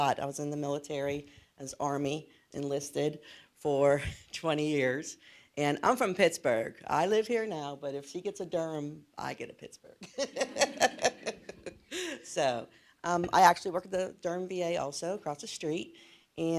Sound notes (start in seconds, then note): 10.0 laughs; 10.1 audience laughs